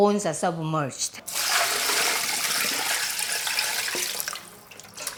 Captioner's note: water pouring